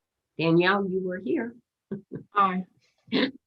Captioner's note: laughing